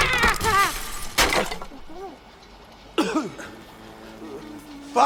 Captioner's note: glass breaking; coughs